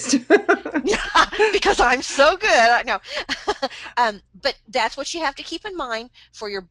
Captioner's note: laughs